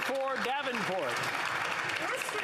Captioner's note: some Applause